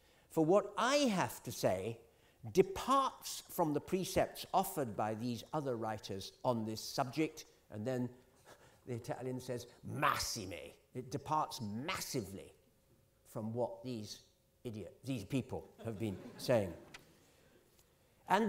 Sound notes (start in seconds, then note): 10.1 italian